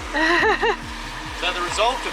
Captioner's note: laughs